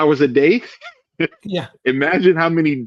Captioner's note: laughing